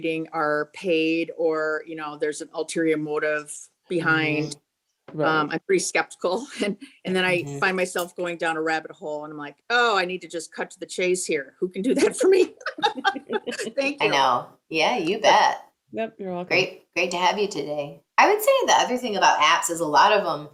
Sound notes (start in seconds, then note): 11.8 laughing